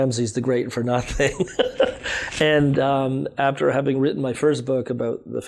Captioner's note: laughs